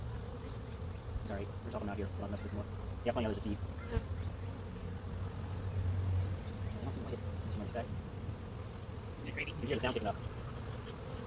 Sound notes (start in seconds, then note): 7.2 sped up talking; 9.8 bee smoker pumping